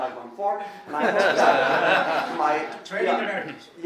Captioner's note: laughing